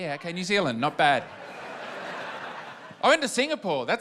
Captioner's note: laughter